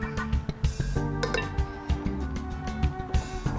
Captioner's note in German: Messer hacken